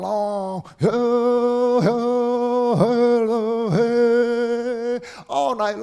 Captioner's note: chanting